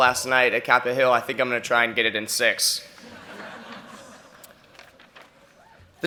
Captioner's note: laughter